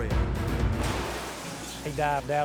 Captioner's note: vehicle thuds